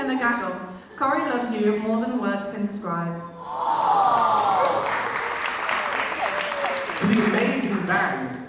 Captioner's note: audience awwws